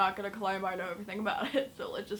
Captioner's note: giggles